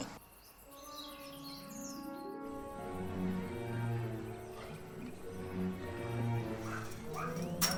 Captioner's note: soft unsettled music; dogs barking